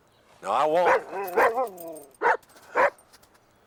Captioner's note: Buck barking